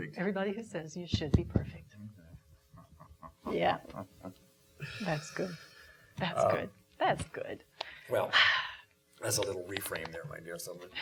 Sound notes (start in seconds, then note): 7.3 exhaling